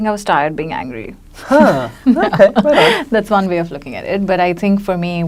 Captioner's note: laughs